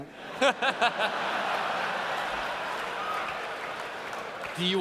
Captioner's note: laughter